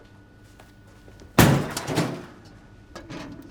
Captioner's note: banging